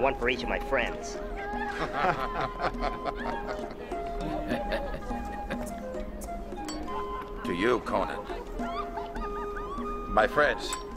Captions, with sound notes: And one for each of my friends. (laughing) - To you, Conan. My friends.